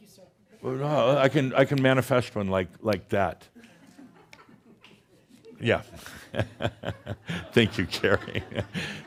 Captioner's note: snap!